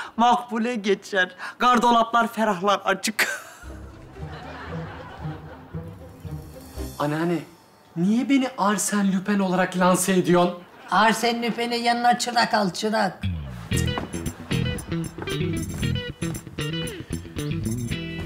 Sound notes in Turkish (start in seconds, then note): 3.2 Gülme efekti